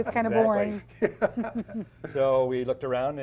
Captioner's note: laughs